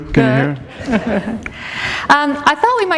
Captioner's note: chuckle